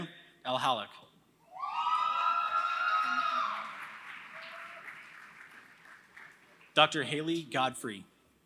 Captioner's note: applause